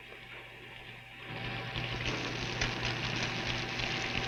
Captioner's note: oil spilling